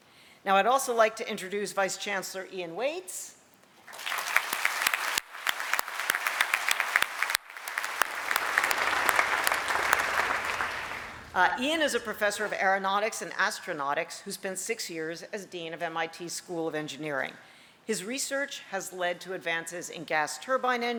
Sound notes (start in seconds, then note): 3.8 applause